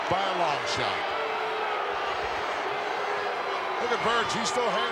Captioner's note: applause